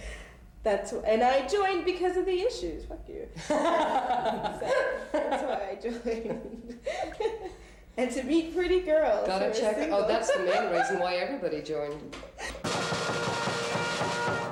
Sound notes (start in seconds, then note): 3.4 laughter; 12.5 drum roll